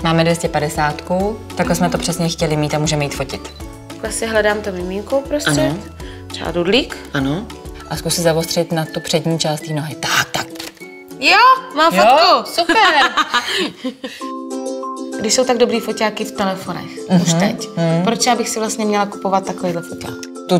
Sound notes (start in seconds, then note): 12.6 laughs